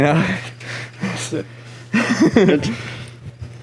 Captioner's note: laughs